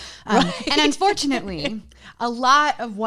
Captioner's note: laughs loudly